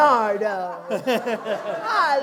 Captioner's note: laughter